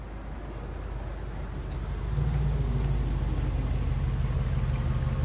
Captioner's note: car engine growling